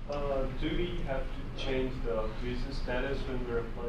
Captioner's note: voiceover